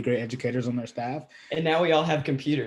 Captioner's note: laughing